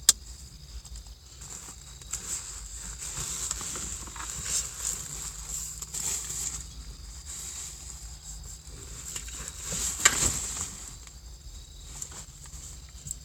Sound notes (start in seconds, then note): 5.0 plastic bags rustle; 8.2 sound of shopping being brought in